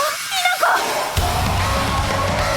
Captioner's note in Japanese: デスボイス加工音声; バンド演奏